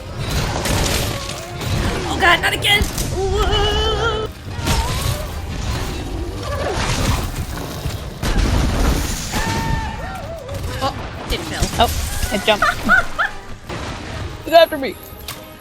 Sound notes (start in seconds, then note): 12.3 laughs in karma